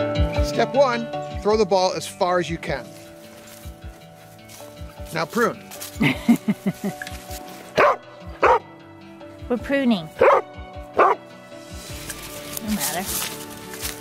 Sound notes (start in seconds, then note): 6.0 woman laughs; 7.8 dog barks